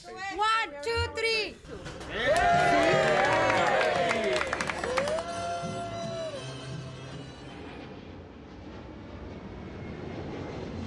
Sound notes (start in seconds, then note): 2.0 cheering; 6.7 ambient airport noises